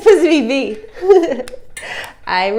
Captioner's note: chuckle